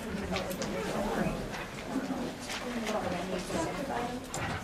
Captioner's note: students chatter